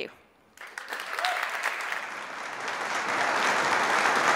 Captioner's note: audience applauds